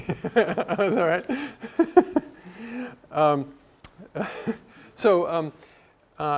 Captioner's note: laugh